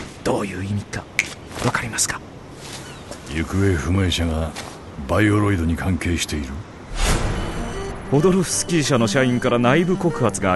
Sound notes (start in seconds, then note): 7.1 papers printing